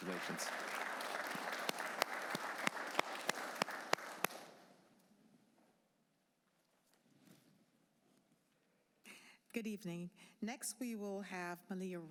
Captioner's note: applause